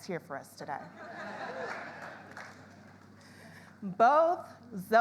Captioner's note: audience laughs